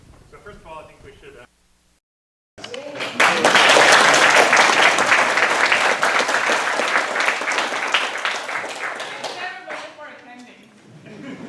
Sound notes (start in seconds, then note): 2.8 applause